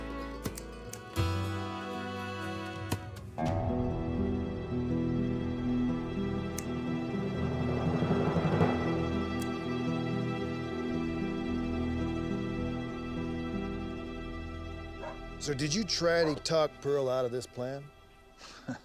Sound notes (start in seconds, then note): 0.4 scissors snap; 18.5 chuckling